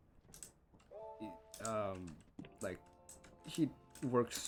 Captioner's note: stammering